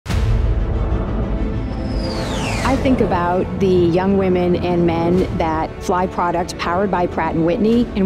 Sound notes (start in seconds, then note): 0.0 airplane droning; 0.0 intense music